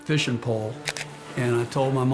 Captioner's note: camera clicking